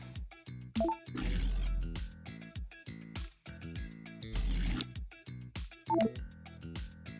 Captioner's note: soft electronic chimes; upbeat guitar music